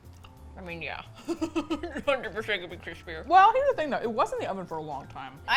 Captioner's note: laughs